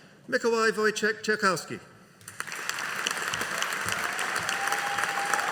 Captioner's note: audience cheering